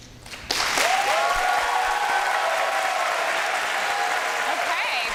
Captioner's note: applause and cheering